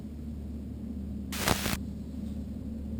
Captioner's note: static